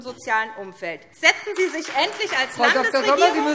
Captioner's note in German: Beifall SPD